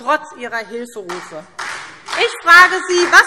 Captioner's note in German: Beifall SPD